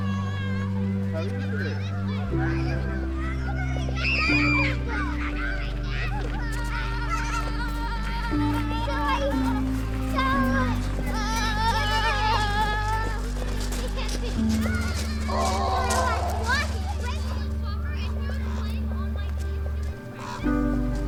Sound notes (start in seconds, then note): 4.2 children clamoring continues; 4.2 pensive music continues; 18.1 bird squawking